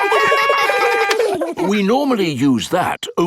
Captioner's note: siren wailing; kids laugh; siren stops